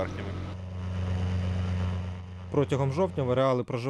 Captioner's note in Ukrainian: летить літак